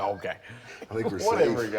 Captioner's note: laughing